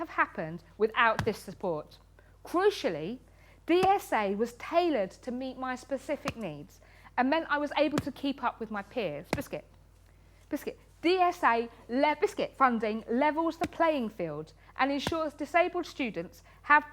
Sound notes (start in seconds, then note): none